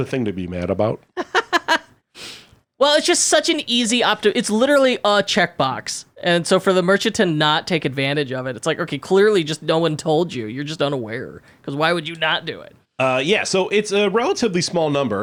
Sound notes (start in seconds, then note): 1.2 laughing